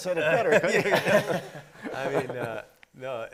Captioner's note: everybody laughing